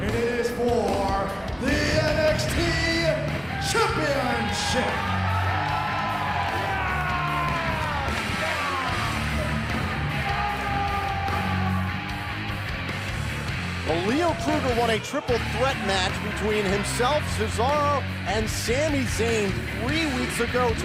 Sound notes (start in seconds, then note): 4.6 crowd cheering